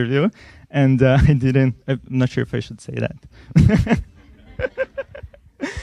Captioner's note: laughs